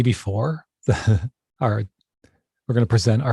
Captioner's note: chuckles